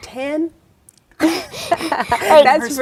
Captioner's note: laughing